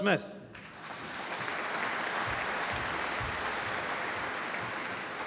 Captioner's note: applause